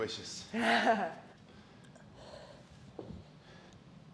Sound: laugh

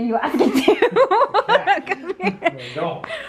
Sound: laughs

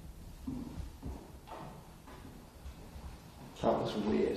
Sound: footsteps echo faintly

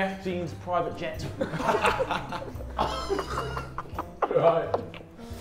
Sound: everyone laughs

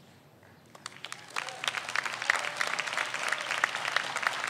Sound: audience applauds

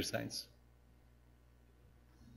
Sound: pause

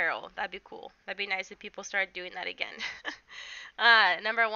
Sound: chuckles

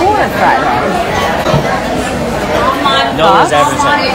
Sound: restaurant chattering

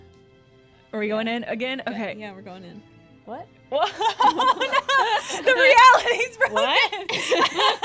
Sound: laughs; laughter

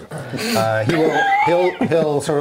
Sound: laughing

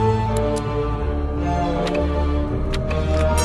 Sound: typing; clock chimes

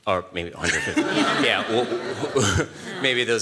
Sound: laughter

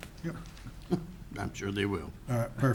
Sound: chuckling

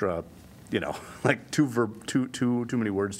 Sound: laughter

